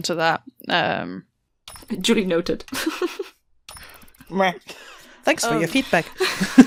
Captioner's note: laughs; laughter